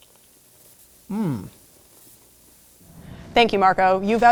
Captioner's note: moans